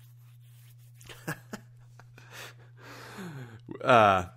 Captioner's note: chuckling